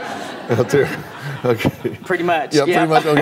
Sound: audience laughing

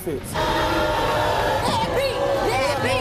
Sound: crowd jeers

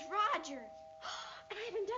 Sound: gasps

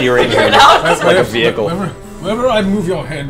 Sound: all laugh

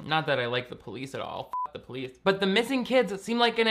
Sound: beep

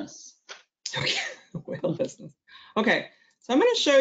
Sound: laughs

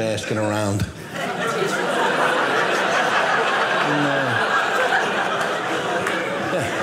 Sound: audience laughing

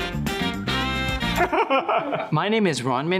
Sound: laughing

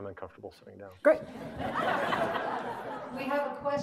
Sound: audience laughing

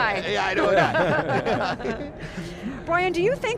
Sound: colleagues laughing

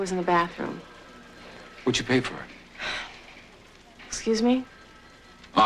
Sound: sighs

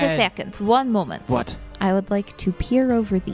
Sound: sounding a bit impatient

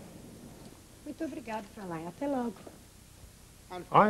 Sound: foreign Language

